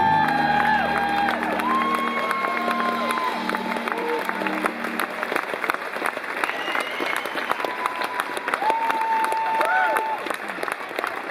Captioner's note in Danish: Bifald